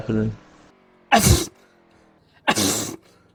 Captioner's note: sneeze